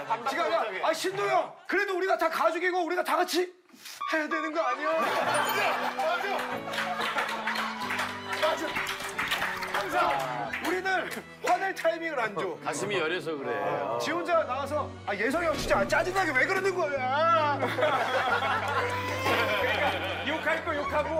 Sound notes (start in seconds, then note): 7.3 laughter; 17.6 laughter